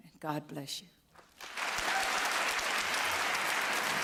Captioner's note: applause